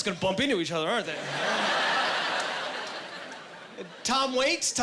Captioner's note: laughing